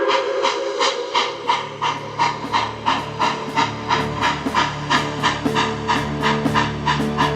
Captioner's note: train whistle blowing; train chugging; dramatic music